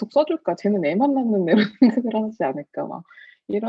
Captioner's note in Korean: 웃음